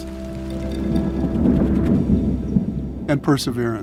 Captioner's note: thunder rumbling